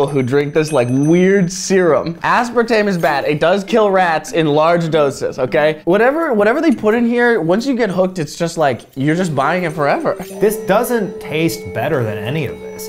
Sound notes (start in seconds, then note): none